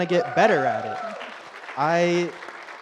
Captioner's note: audience applauds and cheers